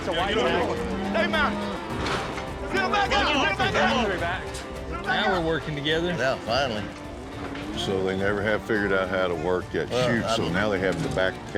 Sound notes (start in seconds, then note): 4.2 all shouting, talking